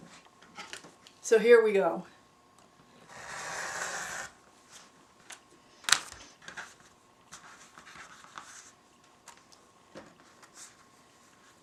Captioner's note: cutting fabric sounds